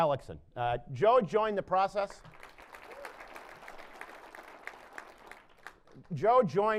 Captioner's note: applause